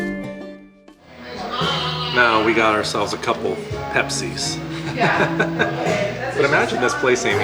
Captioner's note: laughter